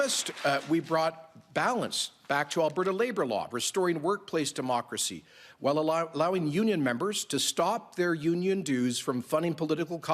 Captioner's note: applause